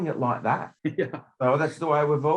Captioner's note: laughs